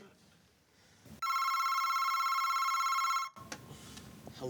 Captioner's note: phone rings